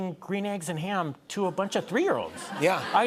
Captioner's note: laughter